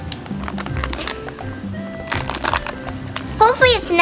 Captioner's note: rustling